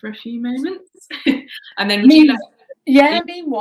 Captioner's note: chuckling